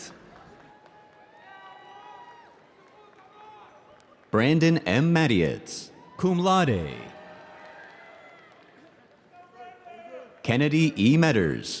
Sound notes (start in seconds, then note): 0.3 audience cheering